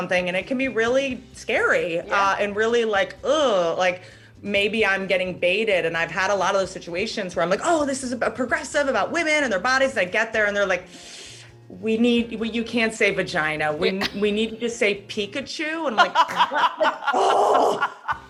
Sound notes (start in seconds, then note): 10.9 inhales sharply; 16.0 laughs